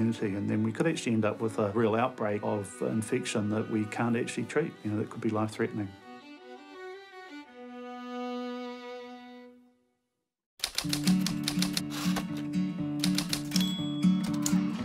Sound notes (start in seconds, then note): 10.6 typewriter keys clack